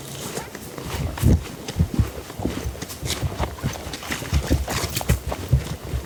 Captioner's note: footsteps crunching soil